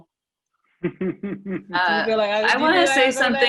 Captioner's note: laughing